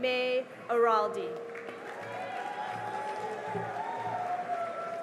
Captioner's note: cheering and applause